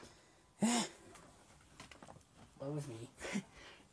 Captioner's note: sighs sharply